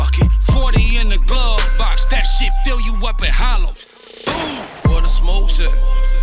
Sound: boom

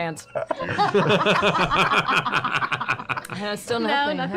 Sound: laughter

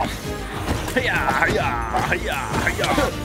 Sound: attack sounds

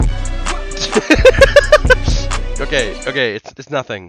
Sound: continues laughing at funny video

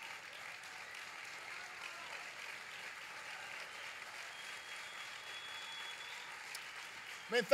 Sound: applause

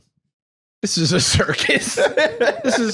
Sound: both laugh

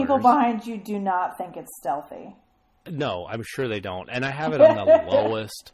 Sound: laughs

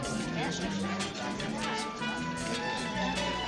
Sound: chatter

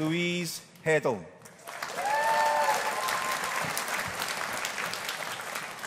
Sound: audience applauding

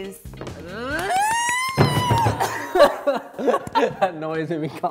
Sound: squealing; laughing

